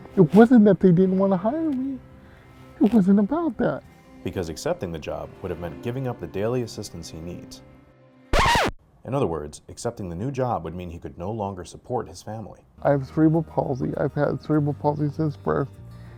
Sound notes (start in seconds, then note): 8.3 record scratch